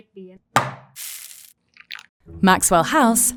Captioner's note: can thudding and coffee pouring